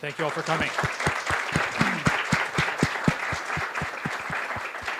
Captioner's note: applause